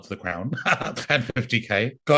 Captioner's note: laughs